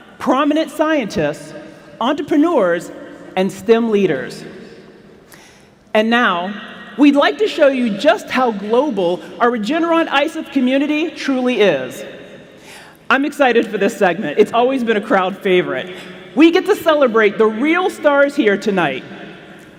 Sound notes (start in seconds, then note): none